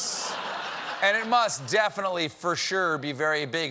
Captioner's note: laughter